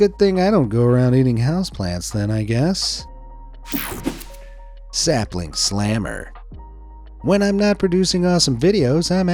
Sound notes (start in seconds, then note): 3.6 screen swishing; 3.6 screen whooshing